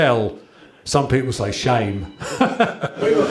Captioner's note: chuckles